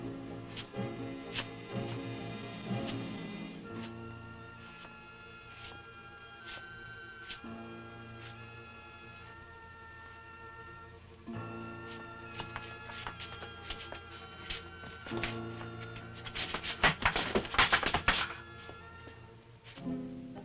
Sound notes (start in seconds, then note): 3.1 Popoca shuffling; 16.6 crates clattering; 20.2 tense music